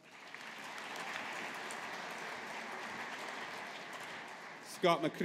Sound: audience applauding

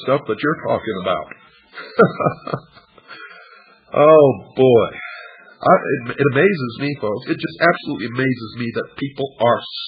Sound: laughs

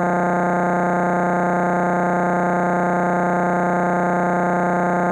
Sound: electronic buzzing continues

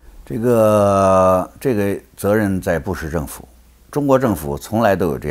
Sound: speaks in foreign language

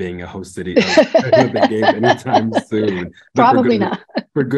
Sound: laughs

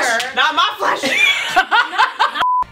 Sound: women laughing; beeping sound

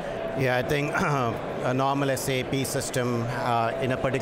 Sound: clears throat

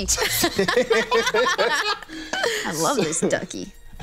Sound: laughs

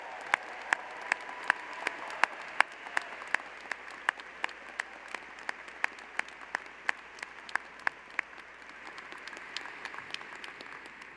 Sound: applause

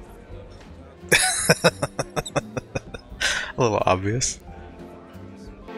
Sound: laughing

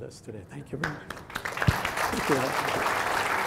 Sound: audience applauding

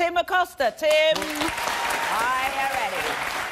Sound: audience applause

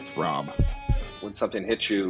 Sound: heart beat

